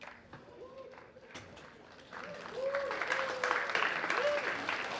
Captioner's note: cheers and applause